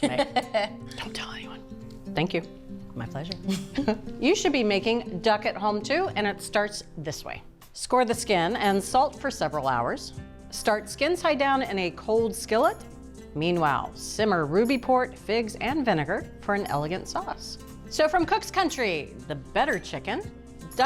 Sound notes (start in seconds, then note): 0.0 laughing; 3.4 laughing